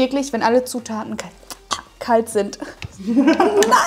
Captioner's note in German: lacht